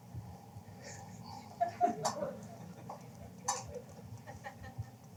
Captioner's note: laughter